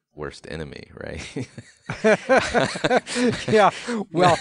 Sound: laughing

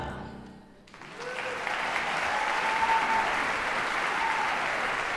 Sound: audience applause

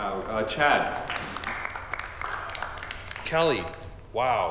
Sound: group applauding

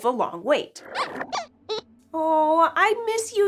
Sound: squeaks squeaks

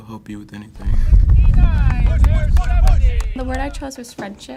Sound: cheering

